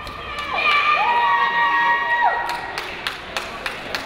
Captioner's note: cheering